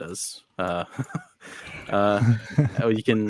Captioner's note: group laughs